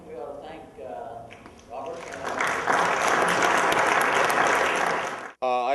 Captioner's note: applause